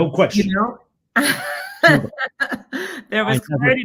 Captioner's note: laughs